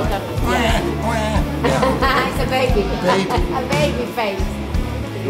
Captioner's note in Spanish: risas